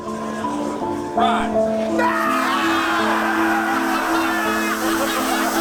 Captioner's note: group screaming